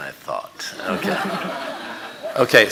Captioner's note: audience laughing